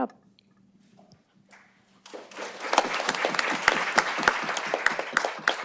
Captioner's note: applause